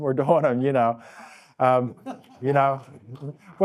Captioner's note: laughing